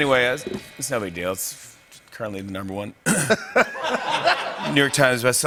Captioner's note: laughter